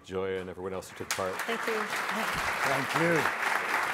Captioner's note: audience applauding